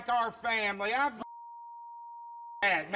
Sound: beep

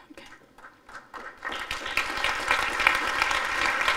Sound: applause

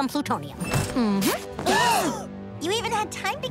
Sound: gasping

